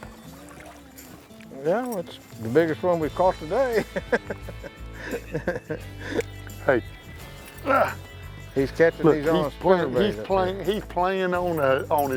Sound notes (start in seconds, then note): 3.6 laughs; 7.6 grunts